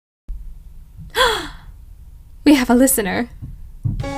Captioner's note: gasp of pleasant surprise